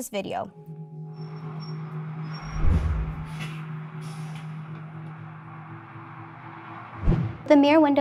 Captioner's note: car traffic sound from video